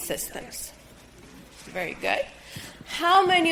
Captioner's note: hands rustling softly